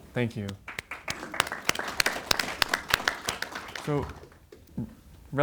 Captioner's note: audience applauds